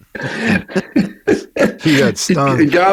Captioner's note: laughing